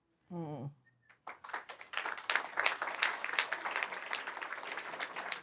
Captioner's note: applause